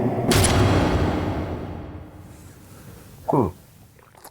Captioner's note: air whooshing